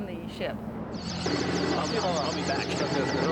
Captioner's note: electronic whirring; speaking in Russian